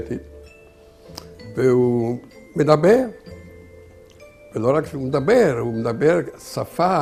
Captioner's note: Hebrew